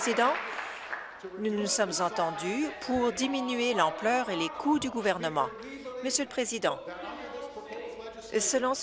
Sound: applause

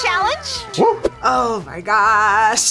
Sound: scoffs

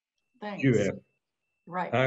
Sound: non-english

